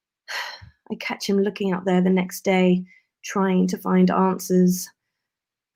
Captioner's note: sigh